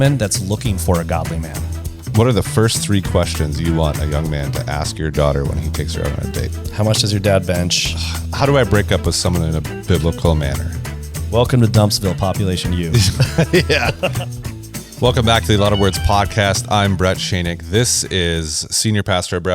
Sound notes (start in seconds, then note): 12.9 laughs